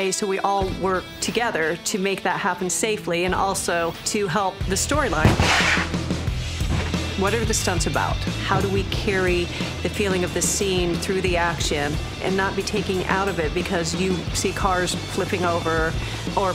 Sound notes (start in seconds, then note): 5.2 exploding